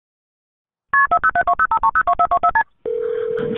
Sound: phone beeping

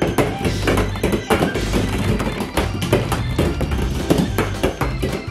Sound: balls thudding on the floor

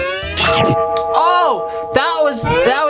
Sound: whistles; loud bite

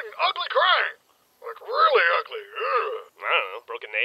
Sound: shiver

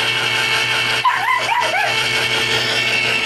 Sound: Ella barks

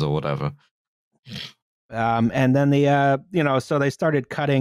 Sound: snorts

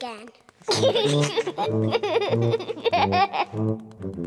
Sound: giggling

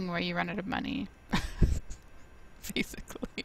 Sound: laughs

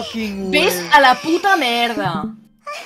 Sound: catalan angery sounds

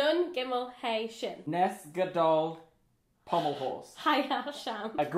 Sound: speaks in Hebrew

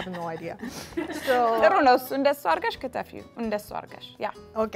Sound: speaking Amharic

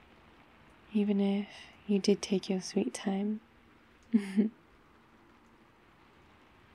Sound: laughs

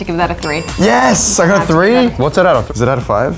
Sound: dinging

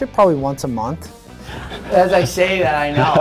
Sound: Oliver laughs

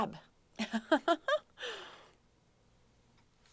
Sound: laughing

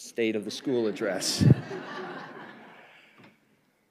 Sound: laughter

